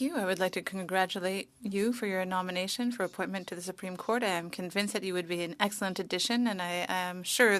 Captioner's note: speaking French